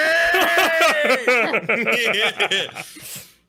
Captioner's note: all laughing